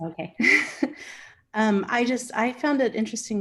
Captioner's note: Megan laughing